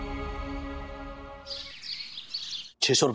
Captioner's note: birds chirping